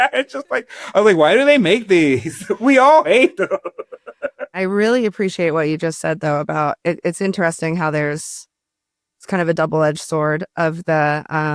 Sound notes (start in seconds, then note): 3.9 laughs